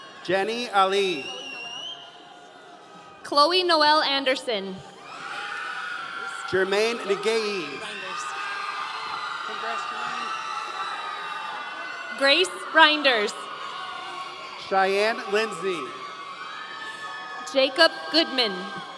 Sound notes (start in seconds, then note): 5.0 audience cheering